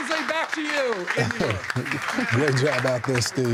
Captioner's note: cheers and applause